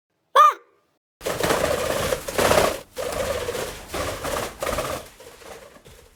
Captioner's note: sound of the chicks flying off